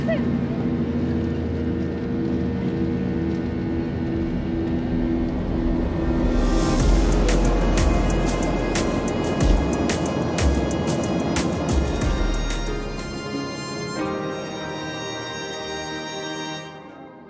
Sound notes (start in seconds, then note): 2.6 airplane roaring; 6.6 energetic music